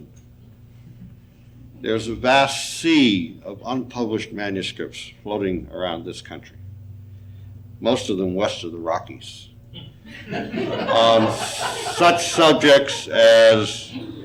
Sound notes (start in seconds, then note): 10.0 audience laughing